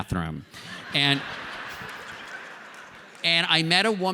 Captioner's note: laughter